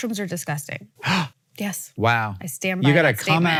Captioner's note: Hank gasps